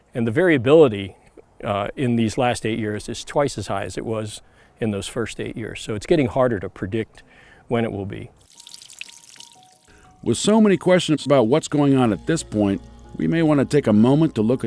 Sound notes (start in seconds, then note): 8.4 water runs